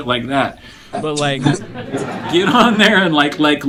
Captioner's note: students laugh; chuckling